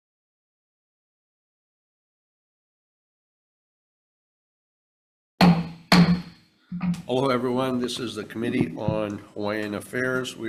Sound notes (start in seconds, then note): 5.4 gavel banging